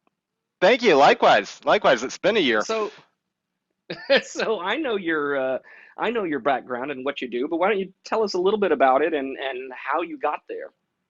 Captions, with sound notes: - Thank you, likewise. Likewise, it's been a year. - (Chuckles) so I know your background and what you do, but why don't you tell us a little bit about it and how you got there?